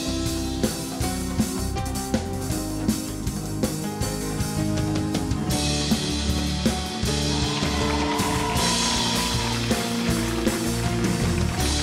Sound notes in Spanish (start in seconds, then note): 6.8 Ovación